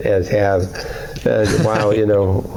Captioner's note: laughter